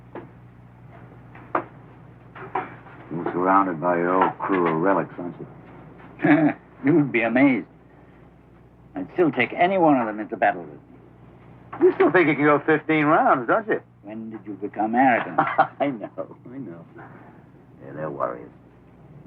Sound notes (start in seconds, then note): 15.1 chuckling